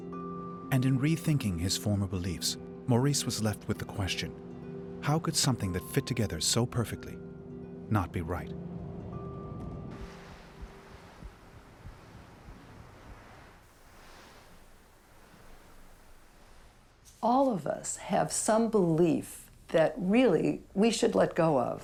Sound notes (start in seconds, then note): 13.9 wind blowing